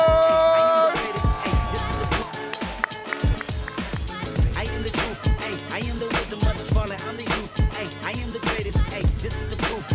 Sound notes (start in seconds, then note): 0.0 audience cheering